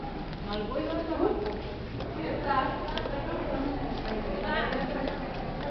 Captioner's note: indistinct conversation